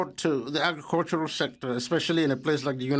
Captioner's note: speaking French